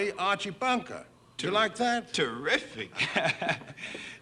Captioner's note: chuckles